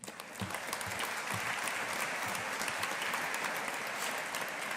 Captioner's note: audience applauding